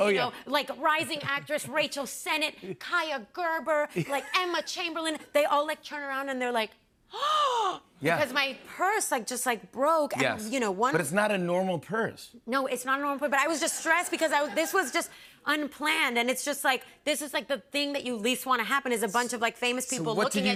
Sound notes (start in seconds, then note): 7.3 gasps